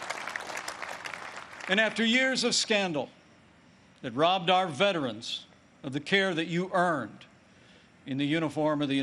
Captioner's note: applause